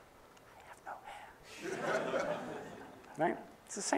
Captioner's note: whispering